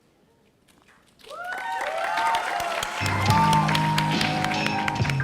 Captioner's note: audience cheering; upbeat music